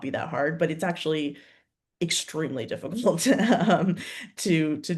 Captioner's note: chuckles